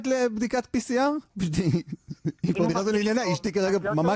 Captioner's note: laughing